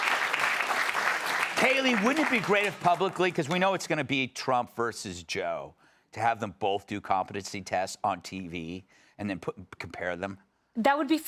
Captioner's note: cheers and applause